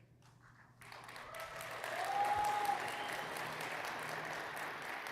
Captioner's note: audience applauding